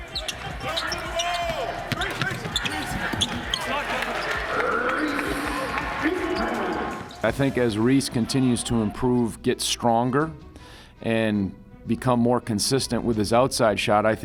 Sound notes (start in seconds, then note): 0.0 players shouting; 4.4 applause